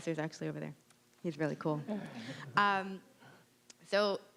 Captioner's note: audience chuckling